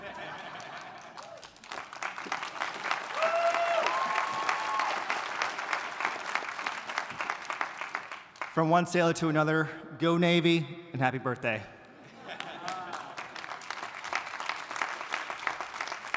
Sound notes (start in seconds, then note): 0.0 attendees chuckling; 2.5 audience applauding; 2.6 attendees cheering; 12.3 audience applauding